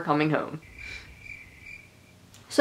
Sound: crickets chirping

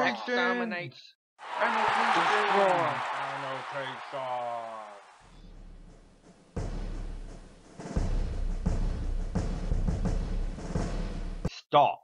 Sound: angry mob

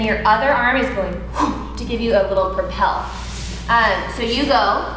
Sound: instructor exhales

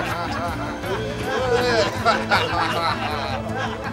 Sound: laughing

